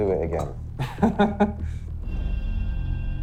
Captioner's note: laughs